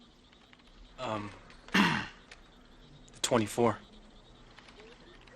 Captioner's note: clears throat